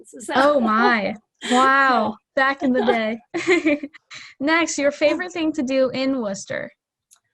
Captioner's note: laughter